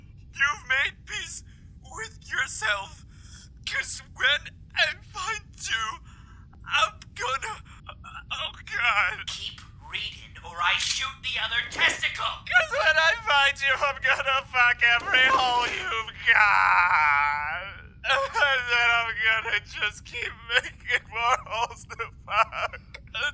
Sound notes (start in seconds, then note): 14.8 sobbing